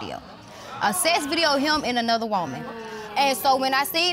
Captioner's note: audience exclaims